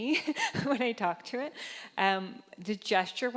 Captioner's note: laughing